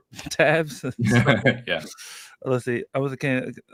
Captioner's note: laughs